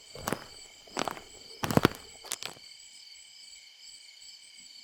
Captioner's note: radio crackles